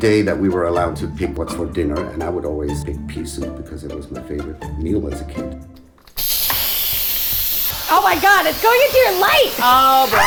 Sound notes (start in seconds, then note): 6.1 pressure cooker whizzing